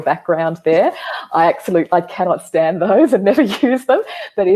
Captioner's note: chuckling